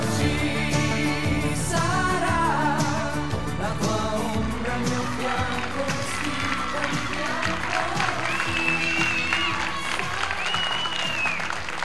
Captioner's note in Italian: Applauso